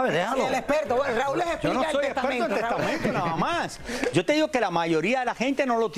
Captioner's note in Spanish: risas